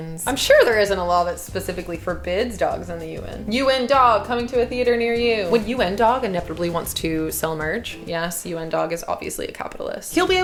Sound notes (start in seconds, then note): none